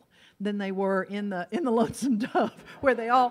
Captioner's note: laughs